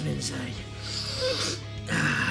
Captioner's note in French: Sniifff